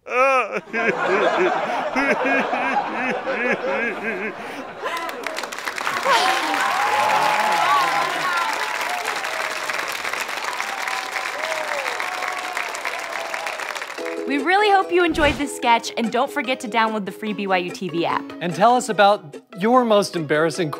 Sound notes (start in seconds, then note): 0.0 deep, male voice sobbing; 5.1 audience applause